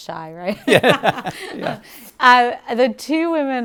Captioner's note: lady laughing